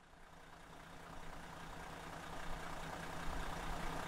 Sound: engine rumbling

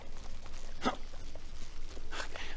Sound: hrgh

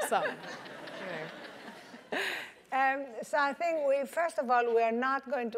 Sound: laugh

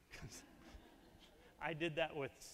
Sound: audience laughing

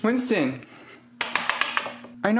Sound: smacks fridge

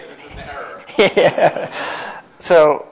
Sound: laughing

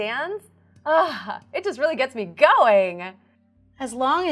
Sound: sighs

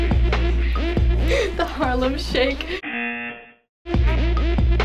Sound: chuckles; buzzer

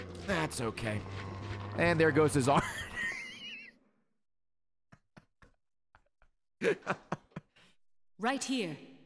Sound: laughs

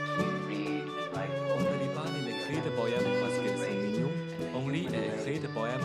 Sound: French

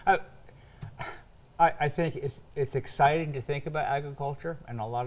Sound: sighs

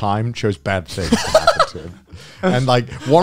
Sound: laughs

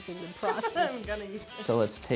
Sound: laughs

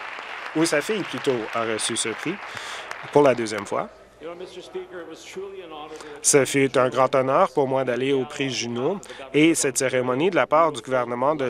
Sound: some Applause

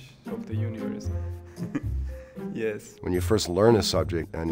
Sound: laughs

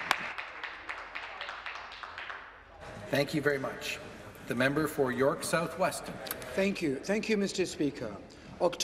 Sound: some applause

